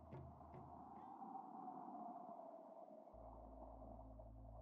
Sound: whooshing sound

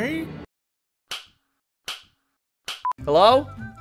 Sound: ruler whapping ringtone

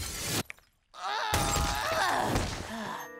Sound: grunting

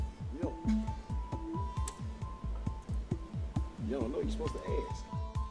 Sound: huffs

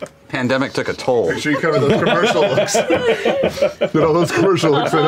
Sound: laughter

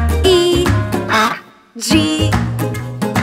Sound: duck quacks

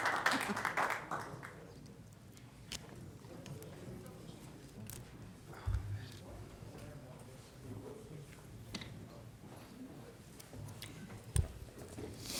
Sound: applause

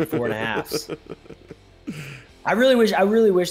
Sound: laugh

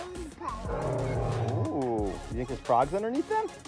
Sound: dinosaur roars

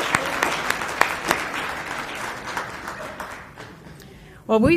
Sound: applause

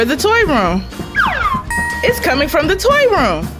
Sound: ding

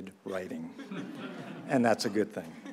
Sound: audience laughs

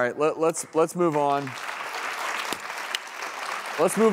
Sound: audience applauding

